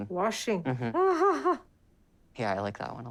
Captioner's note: laughs